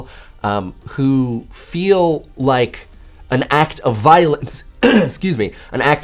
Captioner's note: cough